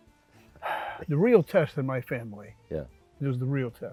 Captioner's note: sighs